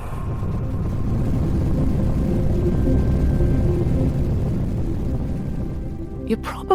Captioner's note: rocket noises